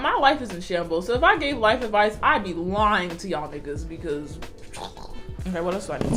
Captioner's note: scoffs